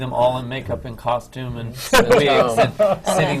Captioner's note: laughs